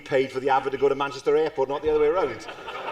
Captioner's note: laughter